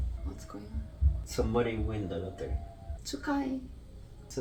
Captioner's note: neighbors shouting in the background